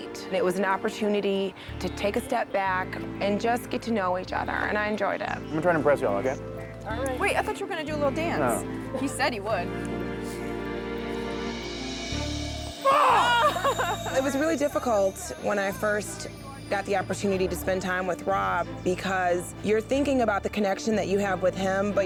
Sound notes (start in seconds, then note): 12.3 groans; 13.1 daters laughing